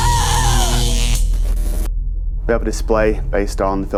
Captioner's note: electrical buzzing